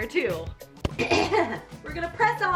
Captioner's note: clears throat